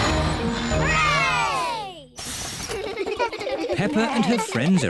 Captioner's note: all cheer